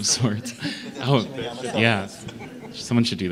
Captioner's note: indistinct chatter; laughs